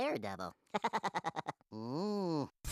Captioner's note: laughing